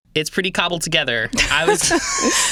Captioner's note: laughing